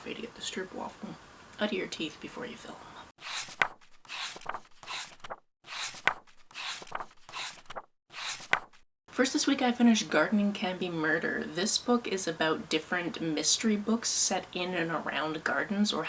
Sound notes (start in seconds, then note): 3.2 pages turning